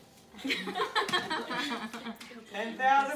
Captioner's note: laughs